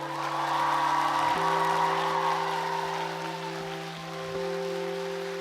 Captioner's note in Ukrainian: оплески